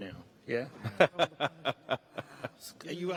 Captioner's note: laughing